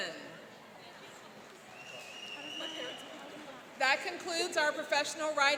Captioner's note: whistling